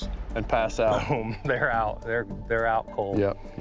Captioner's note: laughs